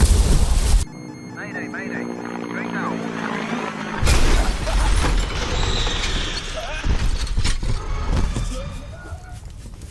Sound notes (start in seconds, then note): 0.3 Static; 4.0 loud crash; 5.8 screech and roar